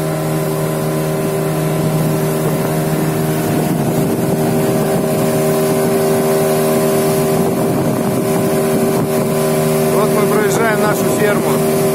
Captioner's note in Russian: шум воды и мотора лодки